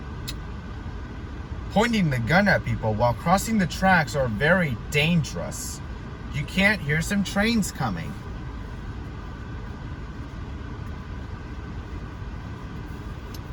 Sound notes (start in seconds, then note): none